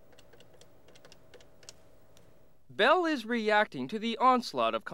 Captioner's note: buttons clicking